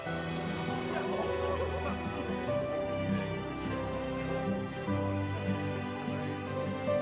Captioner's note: suspenseful music; romantic music; group gasping